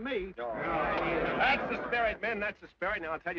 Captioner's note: men grumble